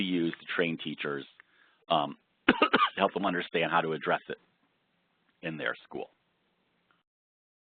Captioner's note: cough